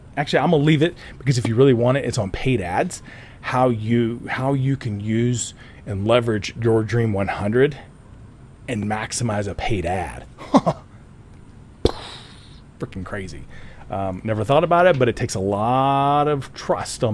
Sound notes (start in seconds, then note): 10.4 chuckles; 11.9 mimics explosion